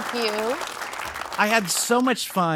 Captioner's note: audience applauding